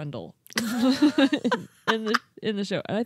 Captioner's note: laughing